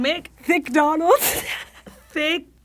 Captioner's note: wheezes